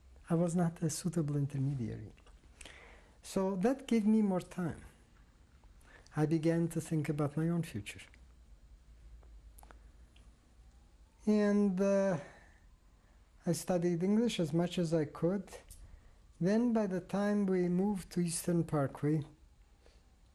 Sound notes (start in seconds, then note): 8.0 pauses for 3 seconds